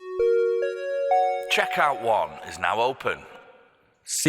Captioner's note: chime